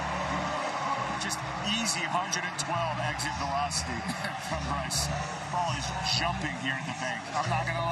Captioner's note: cheering